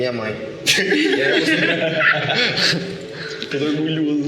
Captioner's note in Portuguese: risadas